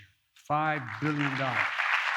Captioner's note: applause